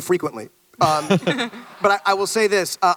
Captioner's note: panelists chuckle